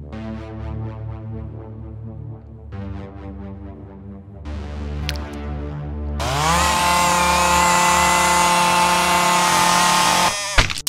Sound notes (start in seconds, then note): 6.2 can opener buzzing